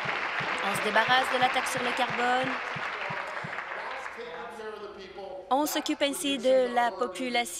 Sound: applause

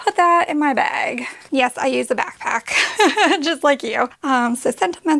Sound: laughing

